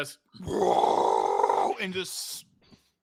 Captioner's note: roars